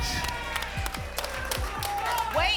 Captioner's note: applause and cheering